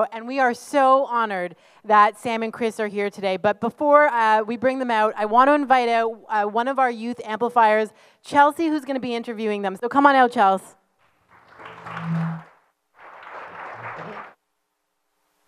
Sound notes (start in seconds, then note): 12.9 audience claps